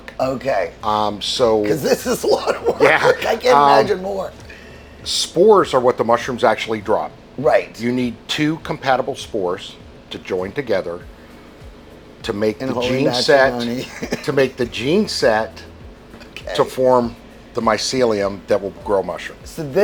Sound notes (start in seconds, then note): 1.5 laughing; 12.6 mumbling